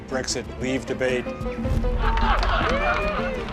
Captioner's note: laughing and applauding